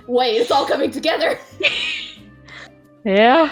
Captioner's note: laughing